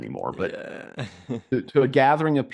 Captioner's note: laughs